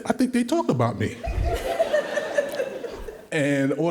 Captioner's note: all laughing